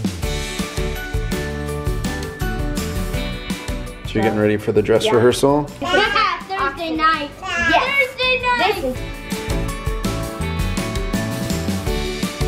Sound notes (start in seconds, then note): 0.2 playful music; 5.8 laughs